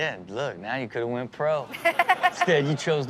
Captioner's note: Chanel laughs